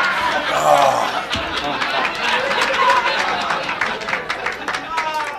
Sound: audience applauds lightly; audience laughs

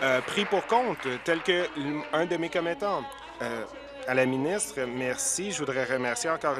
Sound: applause

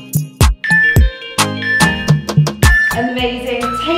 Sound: countdown timer beeping

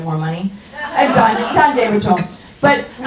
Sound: audience laughs

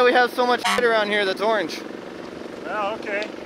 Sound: horn honks

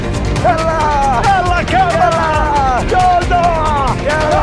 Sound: shouts of joy

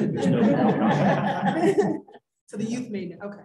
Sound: laughter

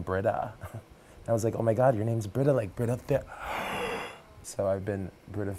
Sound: laugh

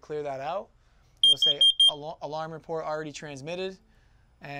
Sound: loud beeping

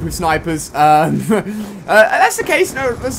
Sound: laugh

